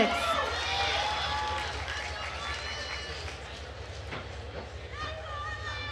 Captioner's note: attendees cheering and applauding